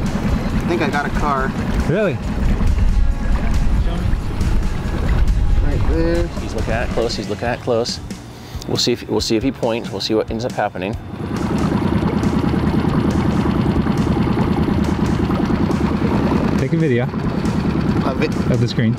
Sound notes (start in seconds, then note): 12.5 boat engine purring